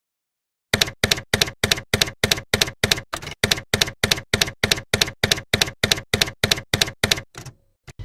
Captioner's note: typewriter keys clacking